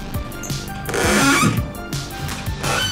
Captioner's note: creak